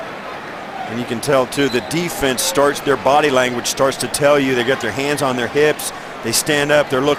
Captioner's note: whistle